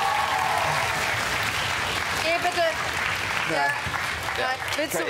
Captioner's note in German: Jubel und Applaus